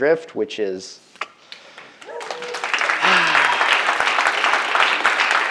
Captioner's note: audience applauding